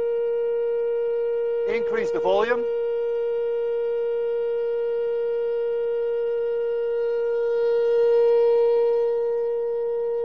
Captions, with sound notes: We increase the volume. (high tone continues, louder )